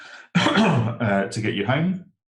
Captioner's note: coughs